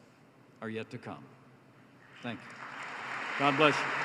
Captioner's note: applause